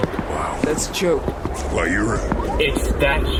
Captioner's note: sounds of ship landing